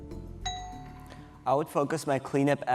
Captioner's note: bell dings